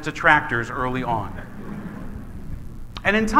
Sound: laughing

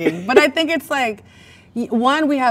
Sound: man laughs

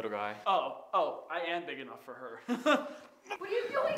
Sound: laugh

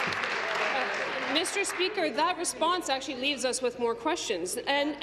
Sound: applause

